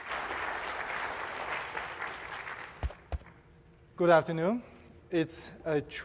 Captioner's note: applause